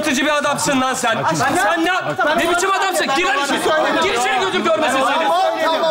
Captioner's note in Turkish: karşılıklı bağrışmalar